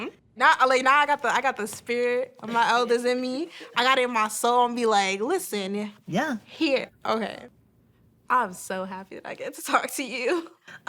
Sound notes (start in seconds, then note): none